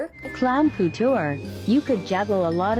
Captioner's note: automated Voice